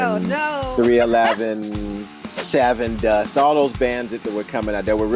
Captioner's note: whooshing sound and pop-y rock music starts to play; whooshing sound